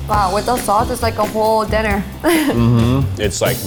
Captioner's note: laughs